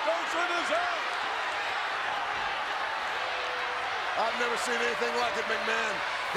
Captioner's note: applause